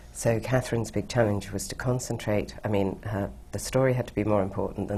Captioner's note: none